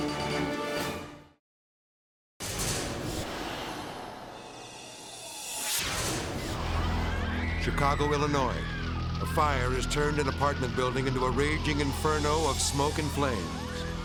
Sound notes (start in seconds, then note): 0.0 dramatic music; 2.4 edgy dramatic music; 5.4 dramatic whoosh; 6.6 people screaming; 8.6 fire roaring; 8.6 people screaming